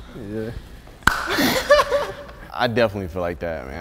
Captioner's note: light nervous laughter; single clap